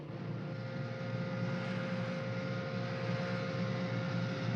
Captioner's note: factory humming